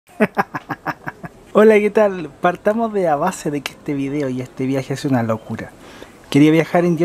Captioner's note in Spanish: risas